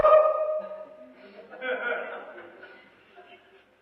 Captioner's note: laughter